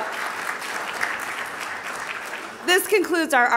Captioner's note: audience applauding